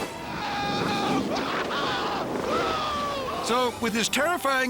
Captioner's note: screaming